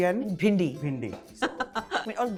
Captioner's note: chuckles